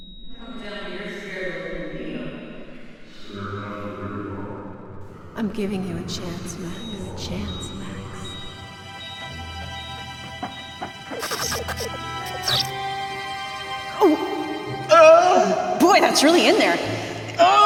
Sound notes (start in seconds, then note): 8.3 solemn music; 11.0 electricity buzzing; 13.8 doctor straining; 14.8 Max moaning